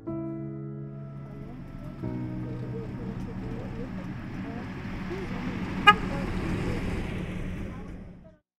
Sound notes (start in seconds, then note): 1.3 van rumbles, approaching; 5.3 van horn toots; 5.3 van rumbles past